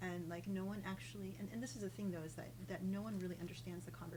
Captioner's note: none